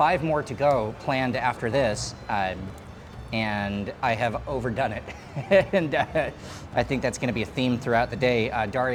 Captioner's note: laughing